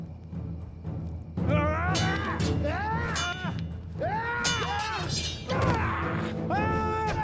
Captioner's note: warriors shouting; swords clanging